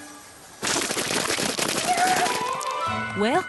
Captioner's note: clatter